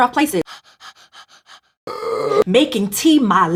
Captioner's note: hyperventilation